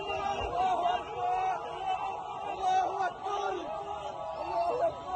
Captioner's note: chanting